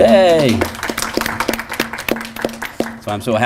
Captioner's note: applause